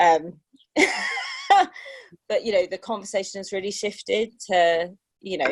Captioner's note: laughter